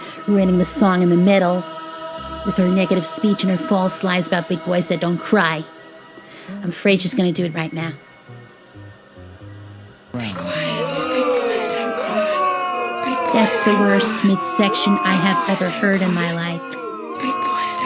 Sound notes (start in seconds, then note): 10.2 disrupting the song in midsection over audience booing